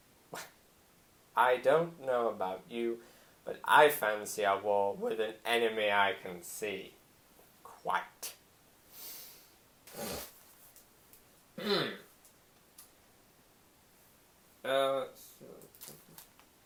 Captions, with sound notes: Well, I don't know about you but I fancy a war with an enemy I can see. Quite. *snort* Err, let's see.